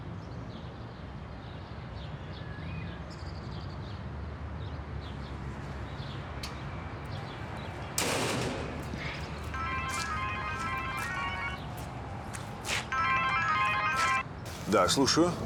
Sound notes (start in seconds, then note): 8.9 phone rings